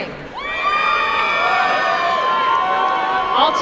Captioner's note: applause and cheering